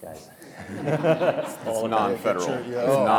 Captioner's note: all laughing